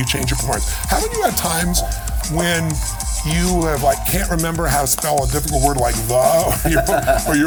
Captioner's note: lauhgter